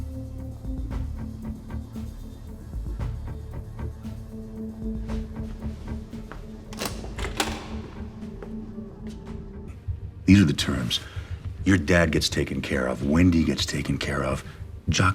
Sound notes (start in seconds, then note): 0.9 suspenseful music; 6.6 door latch clicking